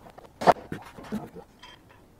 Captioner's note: none